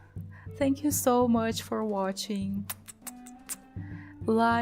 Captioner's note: kiss noises